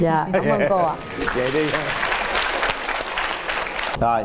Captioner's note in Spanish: aplausos